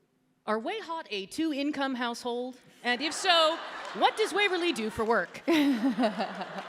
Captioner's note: laughter